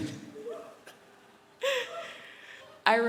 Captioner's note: laughing; random whoo hoos from audience